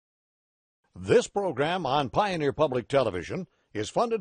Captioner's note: voiceover